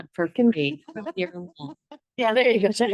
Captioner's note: board member speaks faintly